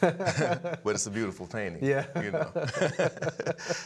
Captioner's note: both laughing